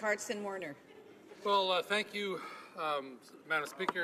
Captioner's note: laughter